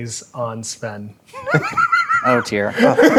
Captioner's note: laughing